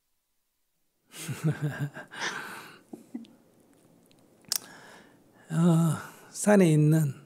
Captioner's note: laughter